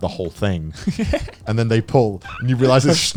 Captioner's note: chuckling